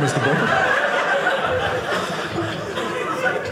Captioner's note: audience laughing